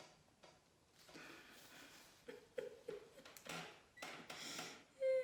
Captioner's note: crying